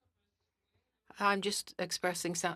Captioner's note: speaking French